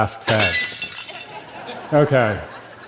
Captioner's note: laughter